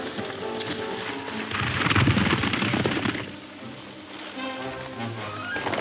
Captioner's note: horse hooves thundering